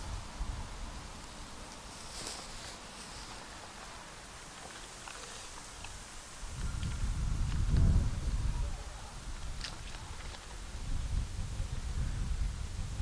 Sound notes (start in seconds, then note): none